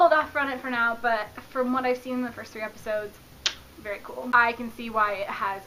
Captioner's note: clicks tounge